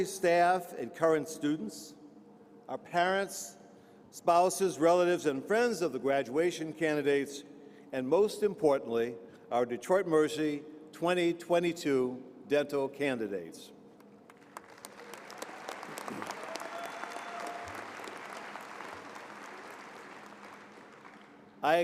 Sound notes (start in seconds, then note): 14.2 applause